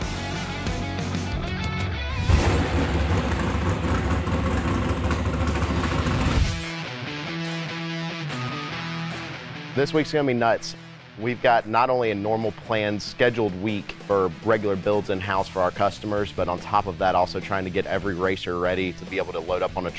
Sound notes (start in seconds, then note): 0.1 rock music; 2.1 car engine revving; 6.7 rock music